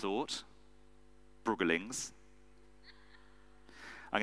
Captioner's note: audience member laughs